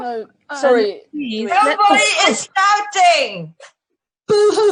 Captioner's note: shouts